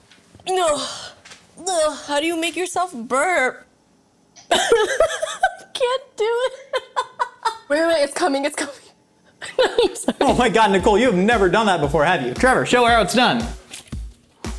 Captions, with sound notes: No, uch, how do you make yourself burp? (laughs) Can't do it (laughs). Wait wait wait it's coming, it's coming. (laughs) I'm sorry. - Oh my God, Nicole. You have never done that before, have you? Trevor, show her how it's done!